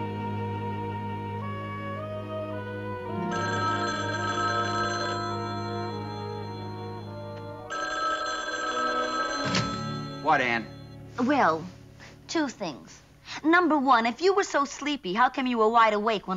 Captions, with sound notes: [phone ringing] What, Ann? Well, two things. Number one, if you were so sleepy, how come you were wide awake when I called?